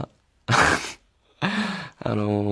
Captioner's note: laughs